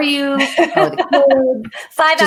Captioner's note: laughs